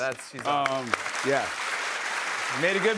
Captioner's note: applause